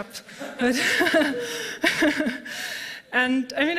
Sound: laughter

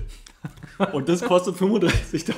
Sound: laughs

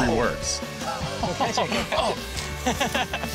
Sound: laughter; upbeat music

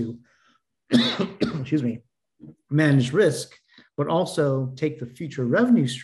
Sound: coughing

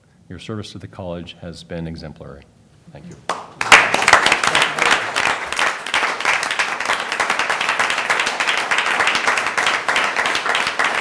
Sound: applause

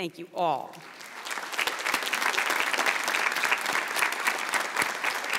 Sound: audience applauds

